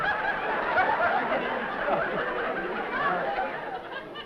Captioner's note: laughter